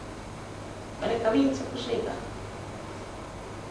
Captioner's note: hindi